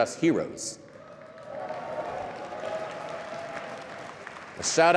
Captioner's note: cheering and applause